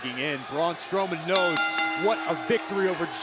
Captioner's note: bell rings